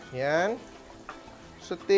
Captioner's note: sizzles